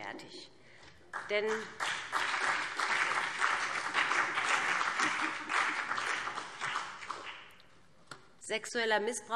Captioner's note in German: Beifall BÜNDNIS 90/DIE GRÜNEN und CDU